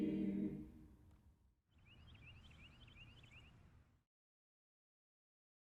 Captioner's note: birds chirping